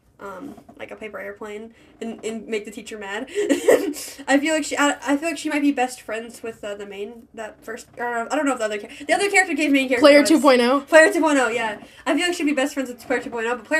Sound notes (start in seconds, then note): 3.4 laughs